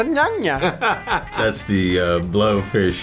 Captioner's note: Jude laughing